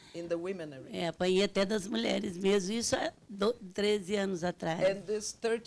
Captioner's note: speaking Portuguese